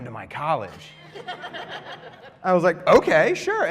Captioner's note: laughter